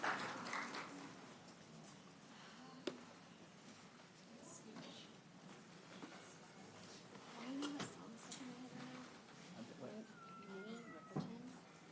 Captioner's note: applause; cheers and applause